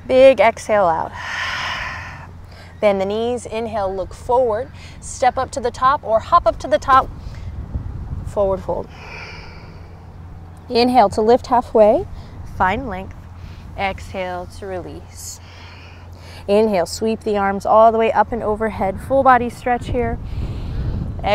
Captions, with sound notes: Big exhale out. (blows out breath) Bend the knees, inhale, look forward. Step up to the top or hop up to the top. Forward-Fold. (takes deep breath) Inhale to lift half-way, find length. Exhale to release. (blows out breath) Inhale, sweep the arms all the way up and overhead. Full body stretch here. (takes deep breath)